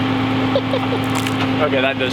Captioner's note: laughing